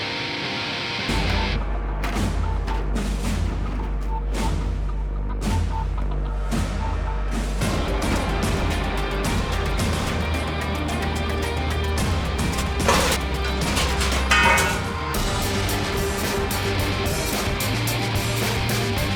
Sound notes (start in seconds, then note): 2.1 tense music; 8.1 intense rock music; 12.4 metal clanking